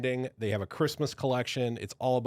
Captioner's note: none